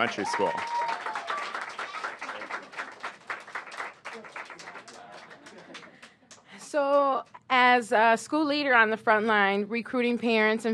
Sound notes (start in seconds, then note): 3.5 applause